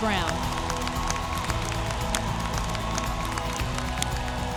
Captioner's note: audience applauding